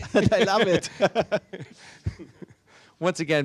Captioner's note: both laughing